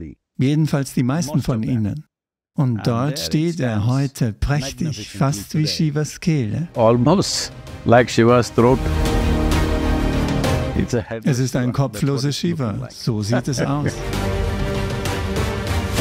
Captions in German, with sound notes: Und dort steht er heute prächtig, fast wie Shivas Kehle. Das ist ein kopfloser Shiva, so sieht es aus. (lacht)